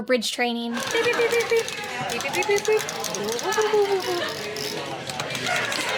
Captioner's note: making beeping sounds